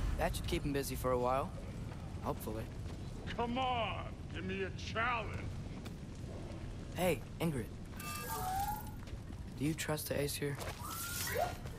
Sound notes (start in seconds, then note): none